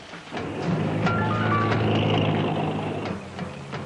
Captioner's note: tanks roaring